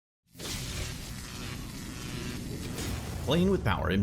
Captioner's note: logo swooshing